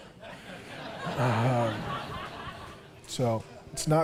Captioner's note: público rindo